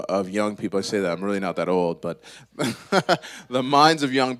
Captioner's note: laughs